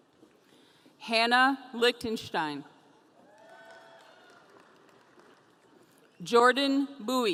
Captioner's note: audience cheering